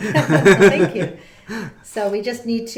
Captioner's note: laughing